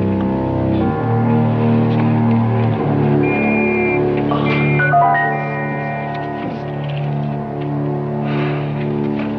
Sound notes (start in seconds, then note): 2.6 grunts, Sighs; 3.2 whistling